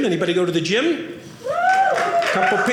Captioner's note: audience cheering